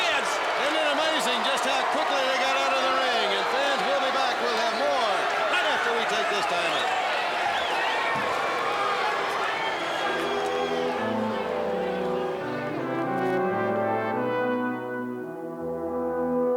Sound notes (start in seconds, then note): 9.1 crowd chatter